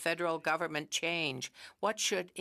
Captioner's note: speaking French